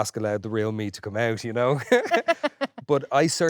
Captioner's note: both laughing